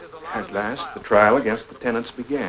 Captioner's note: narrating